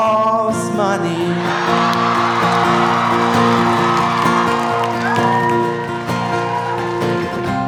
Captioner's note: audience cheering; audience applauding